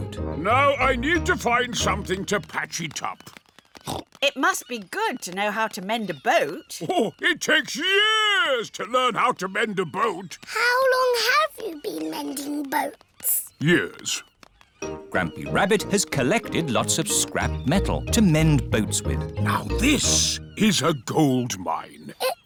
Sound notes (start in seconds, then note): 3.8 snorts